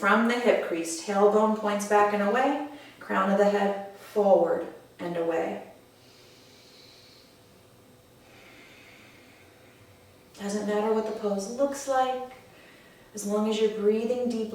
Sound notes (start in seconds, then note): 8.2 audible breath